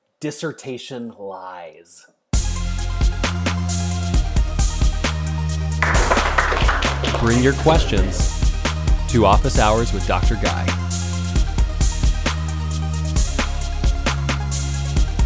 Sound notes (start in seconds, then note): 2.6 upbeat music; 5.8 audience applauding